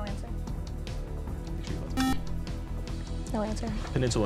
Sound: beep

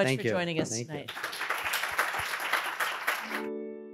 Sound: audience applauding; pensive music

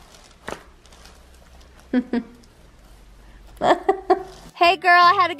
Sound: chuckles

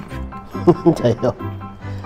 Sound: laughs

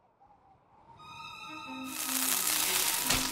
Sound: sizzling

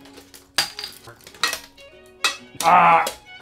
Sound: bottle cap hits floor

